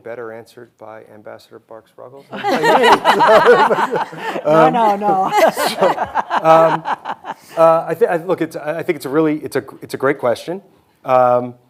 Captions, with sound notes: better answered by Ambassador Barks-Ruggles. (hosts laughing) - No, no, no. (host laughing) I think, look, I think it's a really, it's a great question.